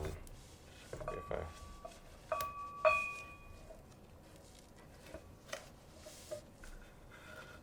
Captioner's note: bell gently clanging